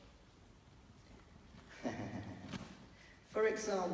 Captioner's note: laughs